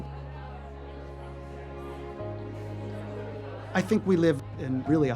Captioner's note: background chattering